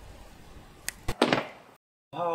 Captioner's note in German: Schnips!